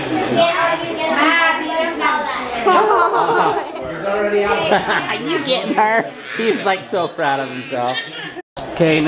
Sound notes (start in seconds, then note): 2.6 girl laughing